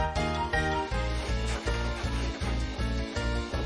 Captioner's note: dirt rustling